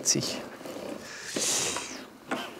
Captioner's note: skeptical noises